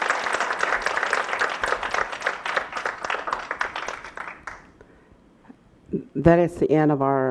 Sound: applause

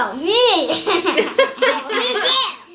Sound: laughs

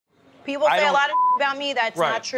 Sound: beep

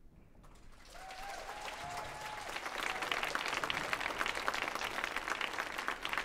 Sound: audience cheers and applauds

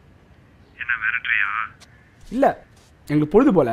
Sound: voice over the phone

